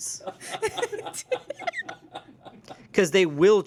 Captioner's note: everyone laughs